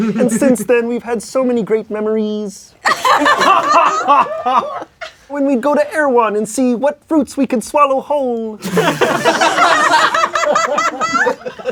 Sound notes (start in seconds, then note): 0.0 crowd laughing; 2.9 laughing; 8.6 crowd laughing